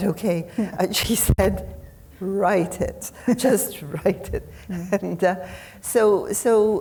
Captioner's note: chuckles